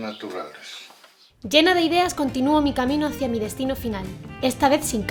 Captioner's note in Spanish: Voz en off